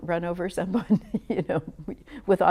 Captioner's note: laughs